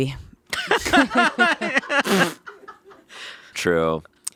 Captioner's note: laughing